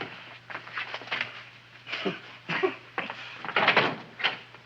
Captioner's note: Wilbur chuckles